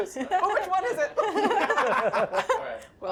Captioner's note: laughing